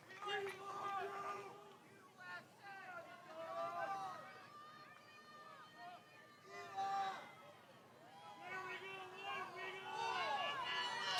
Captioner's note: cheering; applause